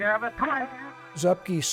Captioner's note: players talking